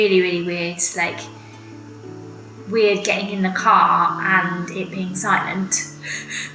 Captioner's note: laughs